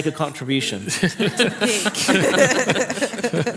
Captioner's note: laughter